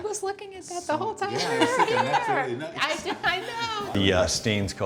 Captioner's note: laughing